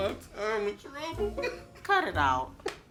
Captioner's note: Ian laughs